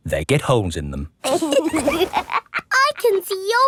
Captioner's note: laughs